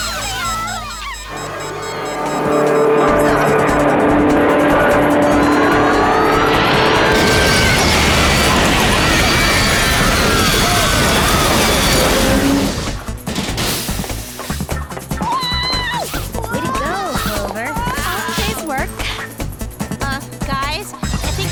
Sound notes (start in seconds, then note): 0.0 screaming; 5.2 plane flying; 7.2 screaming; 9.1 crashing